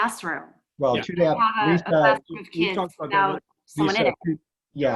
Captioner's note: speaking in unison